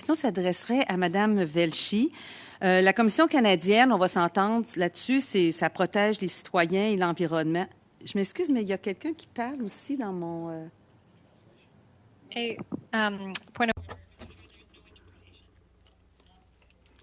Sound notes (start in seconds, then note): 10.5 speaking French